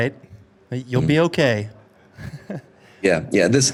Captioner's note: laughs